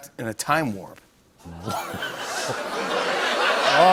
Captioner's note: laughter